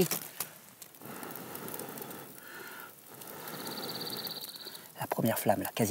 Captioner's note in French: soufflement